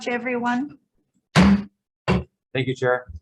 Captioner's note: gavel banging